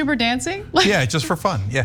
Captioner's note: laugh